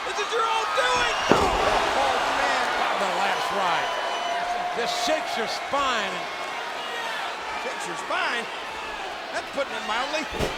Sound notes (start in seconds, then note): 0.8 body slams